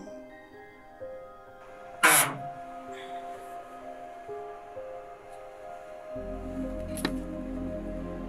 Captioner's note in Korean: 금고 여는 소리